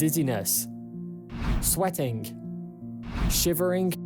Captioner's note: screen swishes